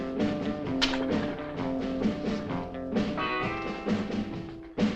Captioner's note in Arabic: تستمر الموسيقى المبهجة والمبهجة; صوت قعقعة العملة المعدنية